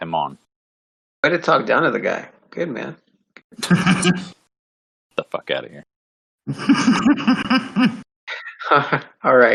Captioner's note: laughing